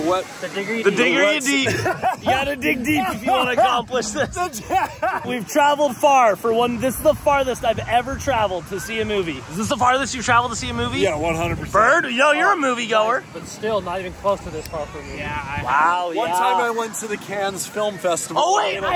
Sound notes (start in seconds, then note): 1.5 laughing